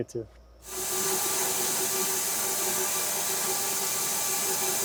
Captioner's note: machine buzzing